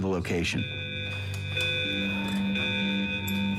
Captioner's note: alarms